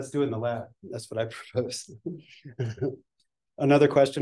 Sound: chuckles

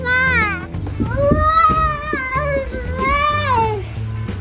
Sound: excited yelling

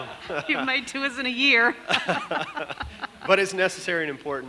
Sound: laughs

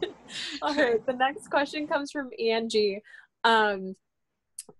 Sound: laughter

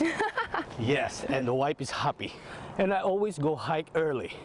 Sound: laughter

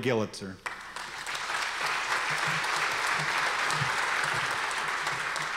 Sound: audience applause

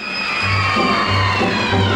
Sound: audience cheering

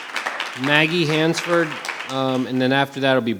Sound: audience applause; audience applause continues

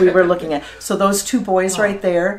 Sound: laughing

